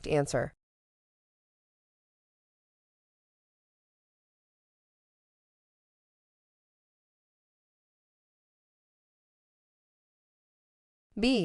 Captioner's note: no audio